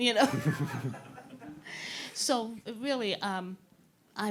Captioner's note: all chuckling